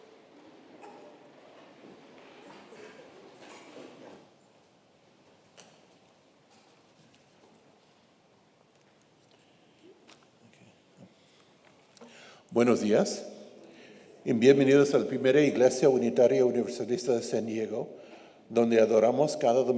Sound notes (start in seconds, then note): 10.5 speaks faintly; 12.6 speaks in foreign language